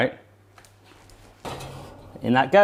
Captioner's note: clattering; clanking